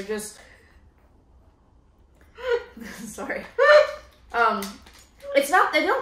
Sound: laughing

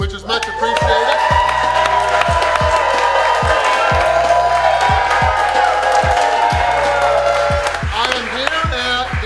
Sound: cheering & Clapping

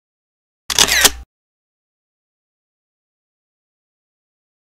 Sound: camera shutters

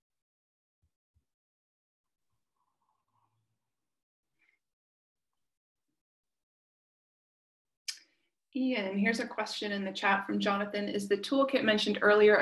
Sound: silence

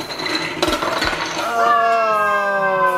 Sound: crashing; exclaims

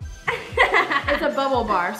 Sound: laughing

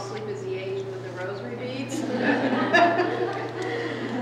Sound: laughter

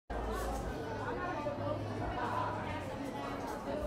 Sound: audience chattering

